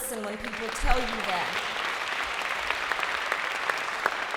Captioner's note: applause